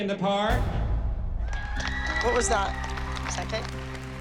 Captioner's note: whooping, applause